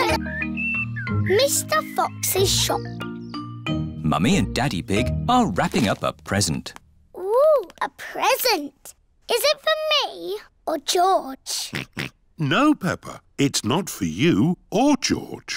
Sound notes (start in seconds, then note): 11.7 oinks